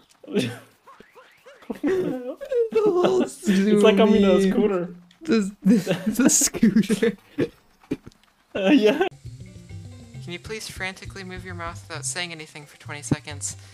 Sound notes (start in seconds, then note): 2.7 laugh; 5.3 laughing; 5.6 laughing along